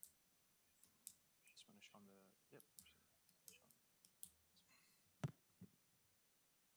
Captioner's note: speak distantly